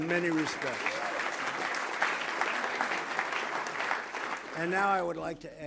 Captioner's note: applause